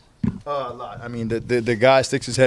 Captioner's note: stutters